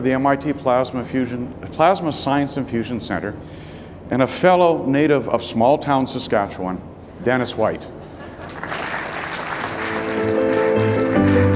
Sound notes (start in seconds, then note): 8.1 audience laughing; 8.2 audience applauding; 9.7 warm music